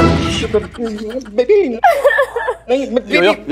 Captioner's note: Crying